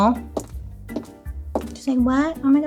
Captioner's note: feet thudding